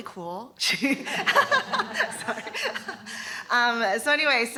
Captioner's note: laughter